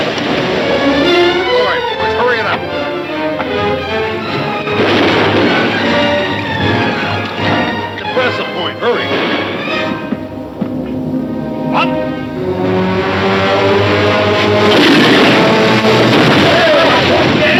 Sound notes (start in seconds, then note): 0.0 cannon firing; 0.2 dramatic music; 4.7 gun firing; 10.1 tense music; 12.6 dramatic music; 14.6 cannon firing